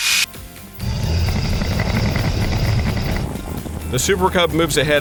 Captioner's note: engine roars